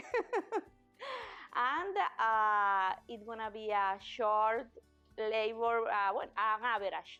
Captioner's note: chuckles